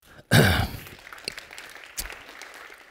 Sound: applause

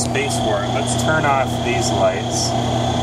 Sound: whirring of machine

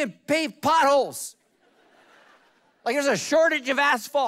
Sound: congregation laughing

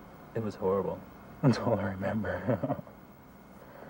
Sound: laughter

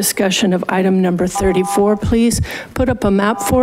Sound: buzzer beeps

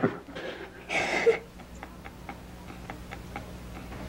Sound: chuckles; Hector cries

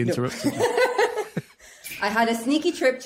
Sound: laughs

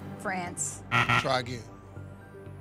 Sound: buzzer

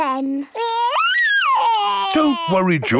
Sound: crying

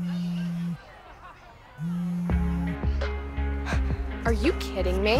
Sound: phone vibrating

